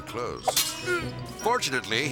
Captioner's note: burglar groans; metal clangs